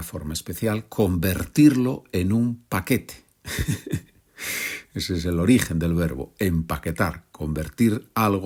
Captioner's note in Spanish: risas